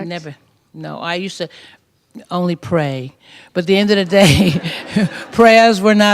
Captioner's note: laughter